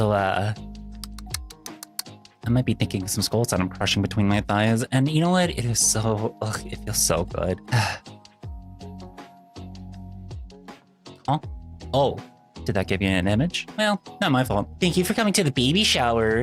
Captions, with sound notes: So, uh, I might be thinking some skulls and I'm crushing between my thighs and you know what, it is so, it feels so good. [sigh] Oh, did that give you an image? Well, not my fault. Thank you for coming to the baby shower.